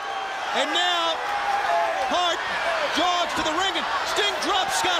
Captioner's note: crowd cheering